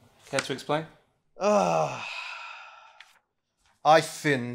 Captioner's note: shrieks; sighs